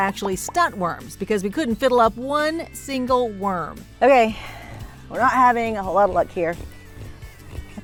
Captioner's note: none